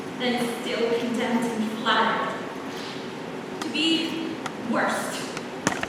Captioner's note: none